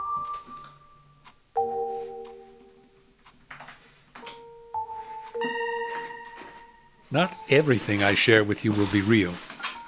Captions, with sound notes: (typing) Not everything I share with you will be real.